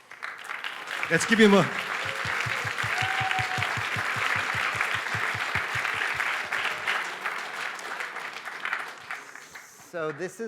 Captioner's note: applause